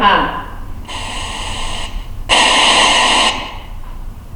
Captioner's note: static